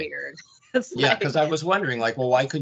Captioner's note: laughing